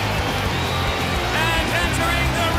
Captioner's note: crowd cheering